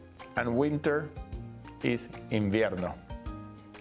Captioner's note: speaking Spanish